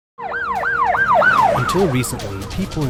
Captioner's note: siren blaring